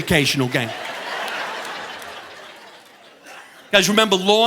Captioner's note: audience laughing